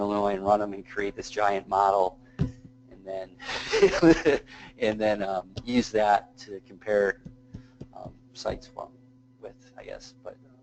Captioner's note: laugh